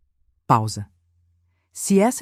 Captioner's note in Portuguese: pausa